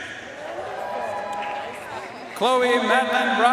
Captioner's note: audience cheering and applauding